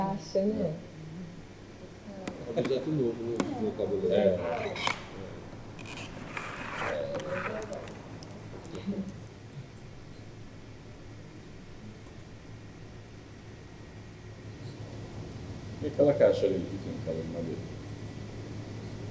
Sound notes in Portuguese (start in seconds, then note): 2.3 ruído mala arranhando o chão e fivela abrindo; 2.3 vozerio ao fundo